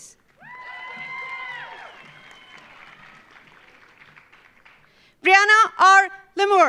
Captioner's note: audience applauding; audience cheering